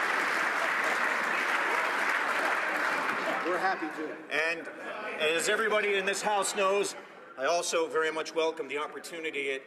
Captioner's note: applause